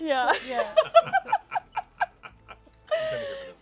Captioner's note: laughter